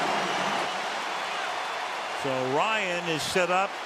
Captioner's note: cheering